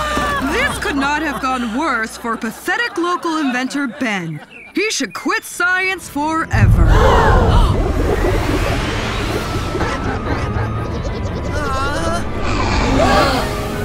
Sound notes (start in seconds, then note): 9.7 rumbling, whirring; 12.7 gasp